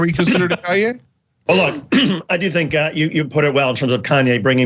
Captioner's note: laugh; cough